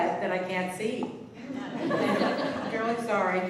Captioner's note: laughter